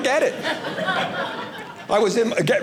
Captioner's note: audience laughing